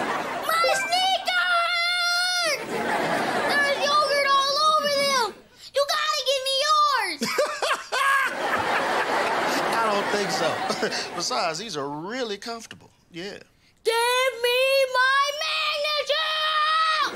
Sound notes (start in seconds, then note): 7.2 laughing